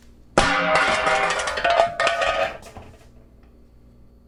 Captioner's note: clanging